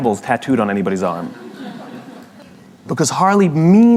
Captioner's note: La audiencia se ríe